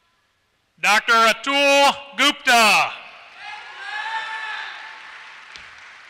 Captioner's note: applause